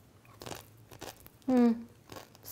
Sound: crunches chip

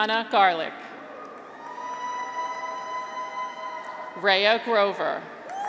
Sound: graduates cheer

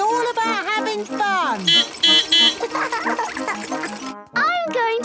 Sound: beeping; laughing

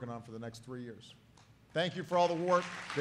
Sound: applause

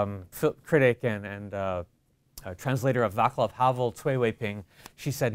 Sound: foreign language

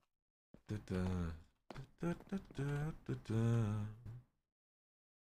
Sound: hums

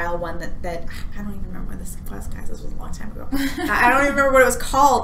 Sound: whispers

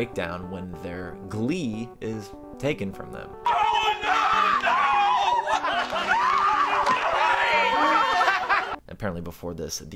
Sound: screaming

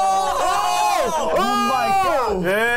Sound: all exclaim at once; speaking in Korean

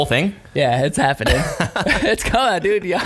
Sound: laughing

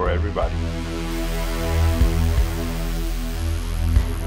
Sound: buzzing

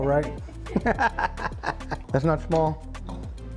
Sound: both laugh

